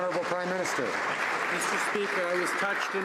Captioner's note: some Applause